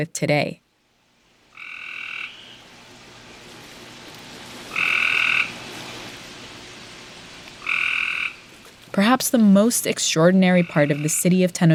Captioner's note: soundbite of frog ribbeting, water rushing